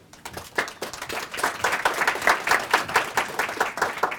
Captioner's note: audience applauds